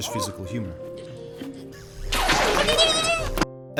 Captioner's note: zapping and whimpering